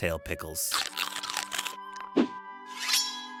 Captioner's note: pickle mastication